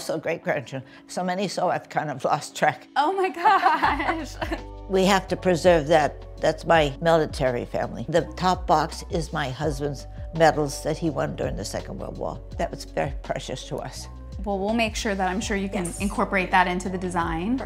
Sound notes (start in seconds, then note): 3.4 laughs